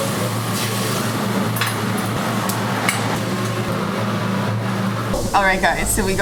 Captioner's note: kitchen cooking sounds